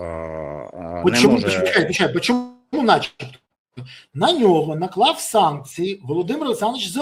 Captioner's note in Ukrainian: сміх